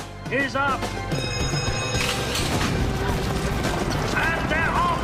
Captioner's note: bell rings